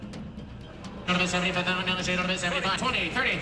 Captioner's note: auctioneer chant